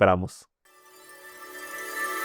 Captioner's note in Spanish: campana